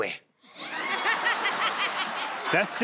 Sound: crowd laughs

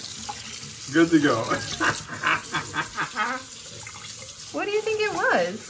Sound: laughs

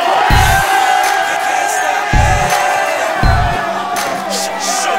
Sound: indistinct cheering

